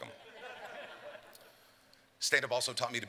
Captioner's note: laughter